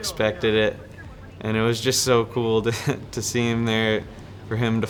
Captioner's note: laughs